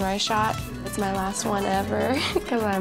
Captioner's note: chuckles